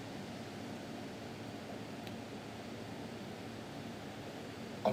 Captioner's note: machine sounds in the background